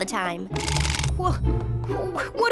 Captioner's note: rattle!